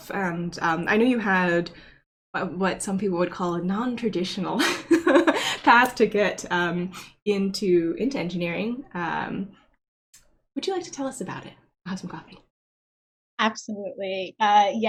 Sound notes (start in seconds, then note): 4.6 laughs